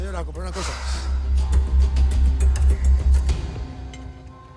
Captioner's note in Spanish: Suspiros